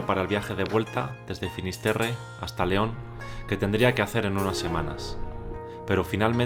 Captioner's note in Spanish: Voz en off